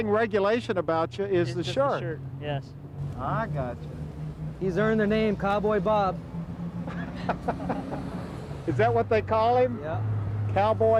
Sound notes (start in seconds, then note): 6.8 laughing